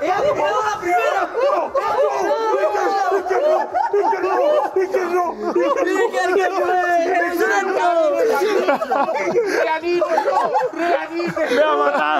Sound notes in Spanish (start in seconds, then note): 5.5 gritan